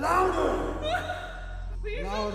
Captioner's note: woman cries out